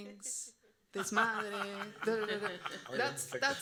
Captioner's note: panelists laughing; audience member speaking Spanish